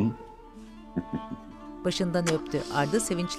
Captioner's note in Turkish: Gülme sesi; Öpücük sesi